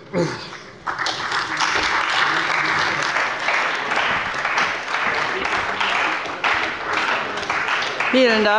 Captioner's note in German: Beifall bei der CDU und dem BÜNDNIS 90/DIE GRÜNEN